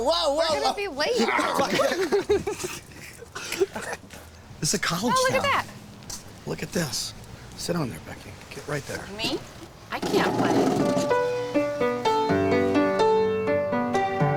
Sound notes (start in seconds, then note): 1.1 group laughs; 10.1 piano playing